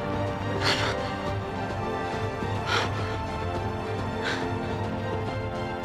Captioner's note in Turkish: Ağlıyor